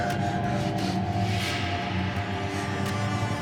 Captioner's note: heavy breathing; suspenseful music